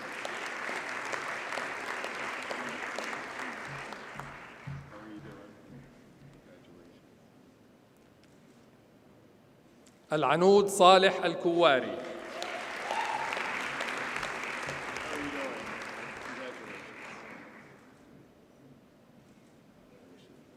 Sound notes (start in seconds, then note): 0.0 audience applauds; 12.0 audience cheers and applauds